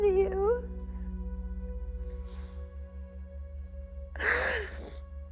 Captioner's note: crying